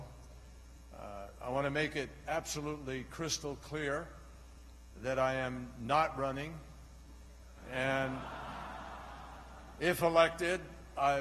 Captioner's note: laughter